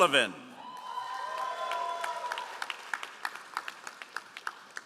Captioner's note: all applauding